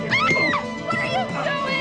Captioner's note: Marisa screams